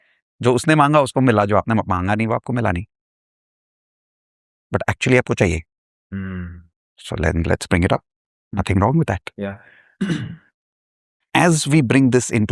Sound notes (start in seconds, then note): 10.0 clears throat